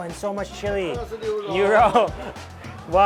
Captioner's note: man speaks in a foreign language; speaks in a foreign language